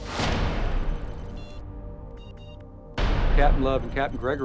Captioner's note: rapid beeping